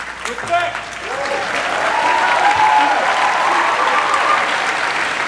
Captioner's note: cheering, applause